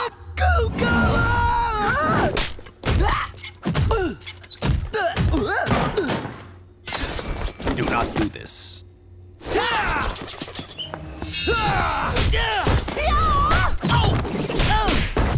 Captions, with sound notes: [screaming] [grunting] Do not do this. [grunting] [grunting]